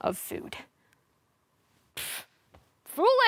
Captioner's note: silence; pfft